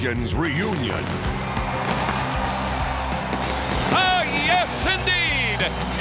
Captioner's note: applause